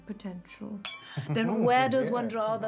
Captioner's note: glass clinking; men laughing